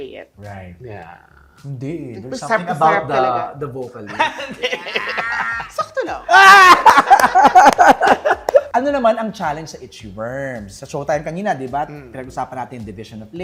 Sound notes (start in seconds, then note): 4.1 laughs; 6.3 laughter